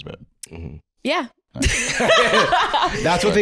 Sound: laughing

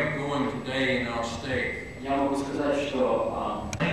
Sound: non-english speech

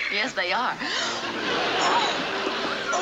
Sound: gasp

